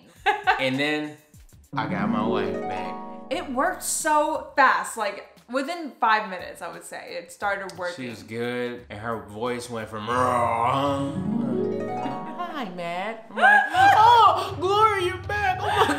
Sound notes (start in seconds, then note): 9.9 gentle music; 10.4 growls